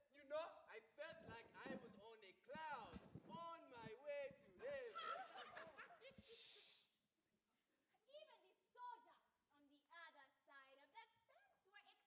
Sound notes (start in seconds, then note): 4.8 students laugh; 6.1 teacher shushes the students